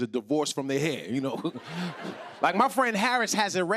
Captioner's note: laughter